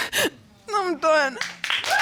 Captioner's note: sobbing; applause